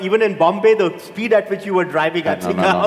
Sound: laughs

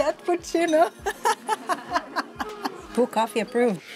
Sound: laughs

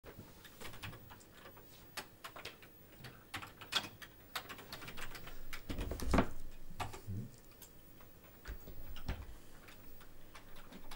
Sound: typing on the keyboard

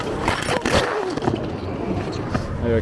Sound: tires skidding; person crashing to ground

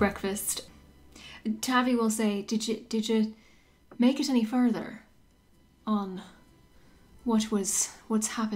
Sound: light Irish accent

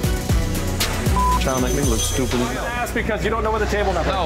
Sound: beeping

